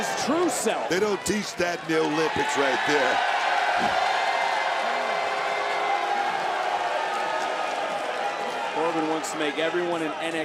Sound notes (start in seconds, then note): 4.2 crowd boos